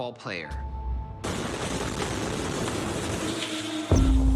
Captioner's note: explosion booming; glass shattering